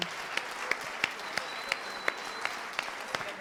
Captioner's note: applause